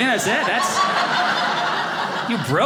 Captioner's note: audience laughing